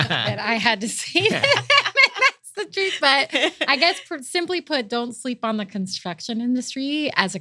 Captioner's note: laugh